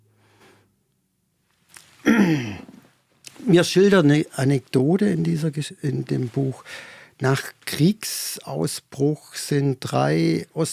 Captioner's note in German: räuspern